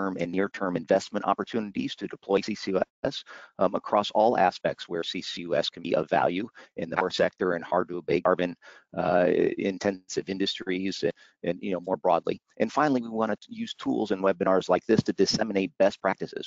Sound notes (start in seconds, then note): 6.8 audio skips